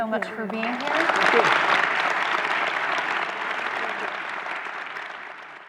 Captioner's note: audience applause